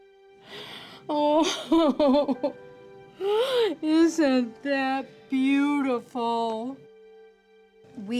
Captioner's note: crying